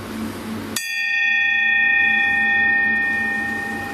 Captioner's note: rings bell